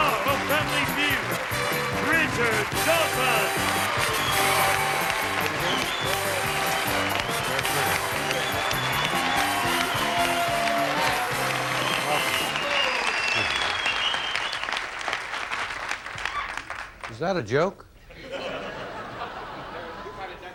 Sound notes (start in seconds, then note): 4.3 audience cheering; 18.2 audience laughing